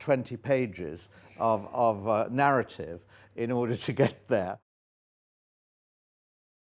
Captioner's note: laughs